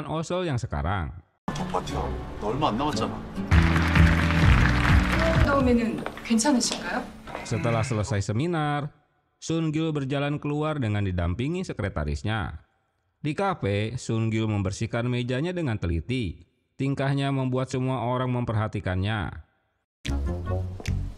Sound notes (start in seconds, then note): 3.4 applause